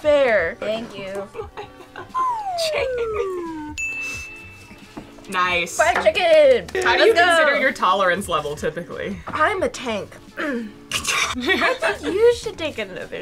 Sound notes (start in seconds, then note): 1.4 laughs; 3.7 bell tings; 10.8 coughs